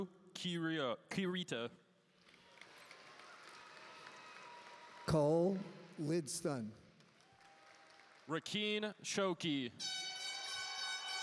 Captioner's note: applause